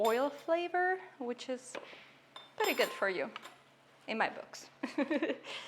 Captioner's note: laughing